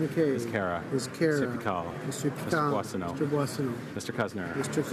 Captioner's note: speaking in french